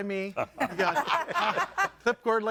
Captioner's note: audience laughing